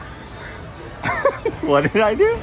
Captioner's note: laughing